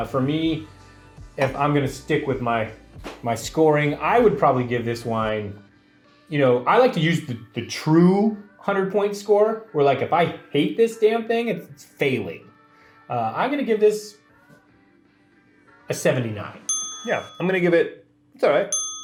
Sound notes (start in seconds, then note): 16.6 bell rings